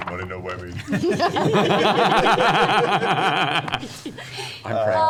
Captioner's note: laughter